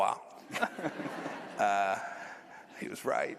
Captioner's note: laughter